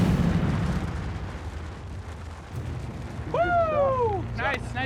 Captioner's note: explosion